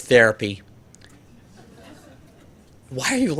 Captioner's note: audience laughter